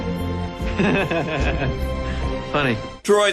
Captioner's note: awkward Laughter